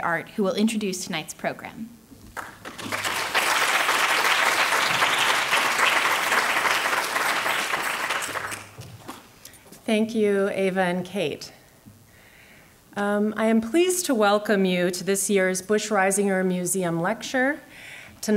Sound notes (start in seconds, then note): 2.8 audience clapping